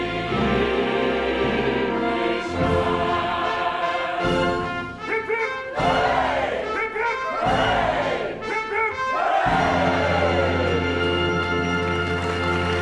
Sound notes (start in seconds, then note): 5.7 all cheer; 11.0 applause